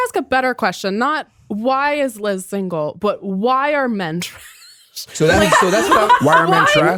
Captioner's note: laughs